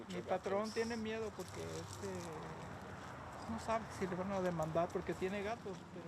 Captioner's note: speaking in Spanish